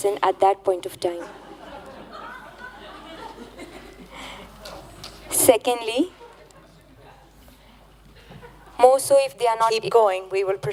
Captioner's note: laughter